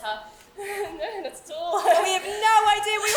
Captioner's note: laughs awkwardly